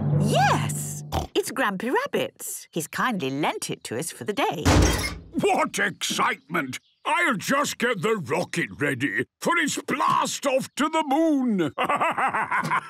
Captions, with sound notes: - Yes, it's Grampy Rabbit's. He's kindly lent it to us for the day. - (metallic door bursting) - What excitement! I'll just get the rocket ready for its blast-off to the Moon! Ha, ha, ha...!